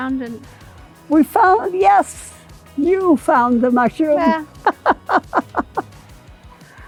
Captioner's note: laughing